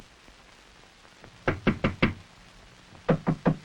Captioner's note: knocking